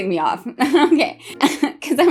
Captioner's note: laughing